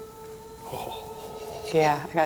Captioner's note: moaning